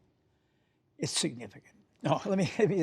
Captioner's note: laughter